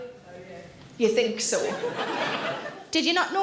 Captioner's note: audience laughing